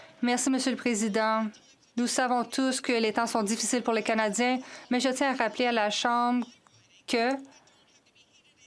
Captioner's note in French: voix de l'interprète